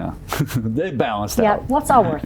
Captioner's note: laughs